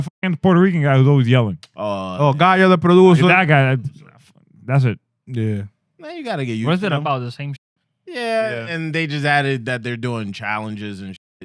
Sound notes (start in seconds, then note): 2.0 speaking Spanish